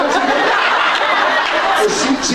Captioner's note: laughs